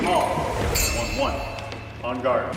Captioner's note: blade sound effect